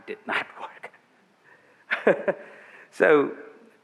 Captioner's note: laughing